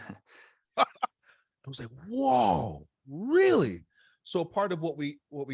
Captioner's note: laughs